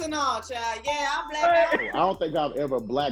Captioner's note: bell chiming